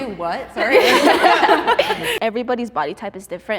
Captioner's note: contestants laughing